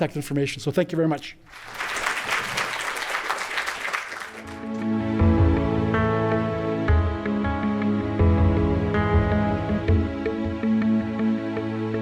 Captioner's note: applause